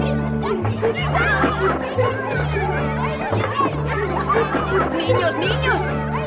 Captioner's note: children yell over each other; Gillis speaks Spanish